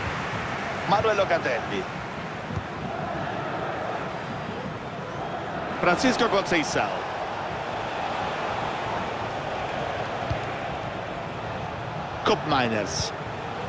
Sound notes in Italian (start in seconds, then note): 4.8 Applauso